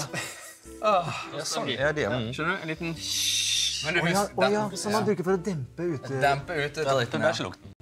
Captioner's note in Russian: имитирует звук освежителя